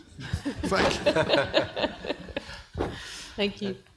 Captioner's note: panel and audience laughing